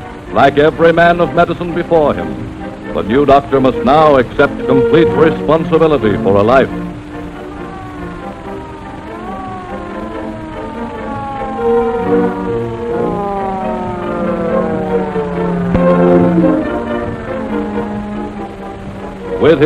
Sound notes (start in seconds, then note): 8.2 ambulance siren